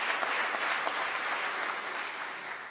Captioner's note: applause